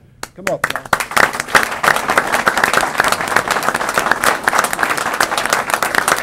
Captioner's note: applause